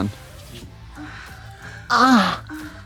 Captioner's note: sexual moaning